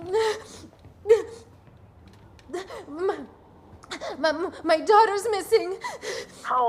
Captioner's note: breathing heavily